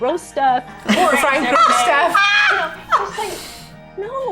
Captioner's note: all laughing